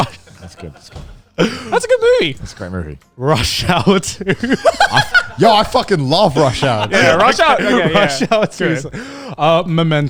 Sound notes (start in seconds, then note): 4.2 everyone laughs